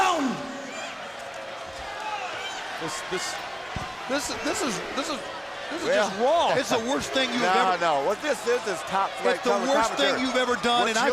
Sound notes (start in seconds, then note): 1.2 crowd chatter